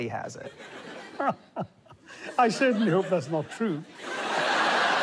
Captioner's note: laughs